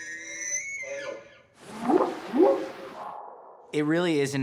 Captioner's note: squealing; whooping sound